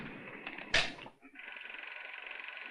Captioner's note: projector whirring